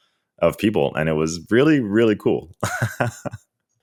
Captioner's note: laughs